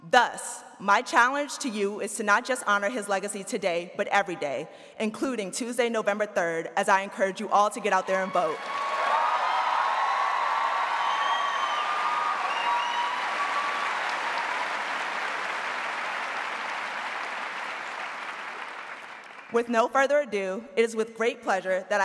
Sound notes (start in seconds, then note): 9.2 audience cheering and applauding